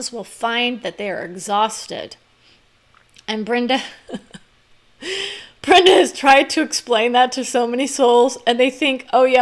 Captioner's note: laugh